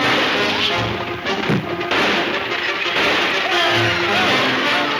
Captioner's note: gunshots banging